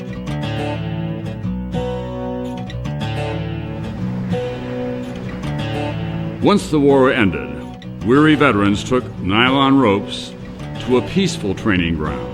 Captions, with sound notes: (water roaring) Once the war ended, weary veterans took nylon ropes to a peaceful training ground.